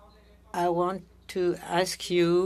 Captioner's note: speaking french